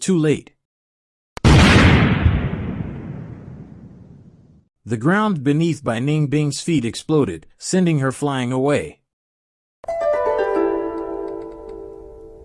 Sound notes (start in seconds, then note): 3.7 explosion